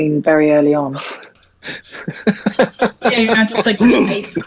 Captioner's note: laughs